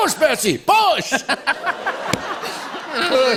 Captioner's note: laughter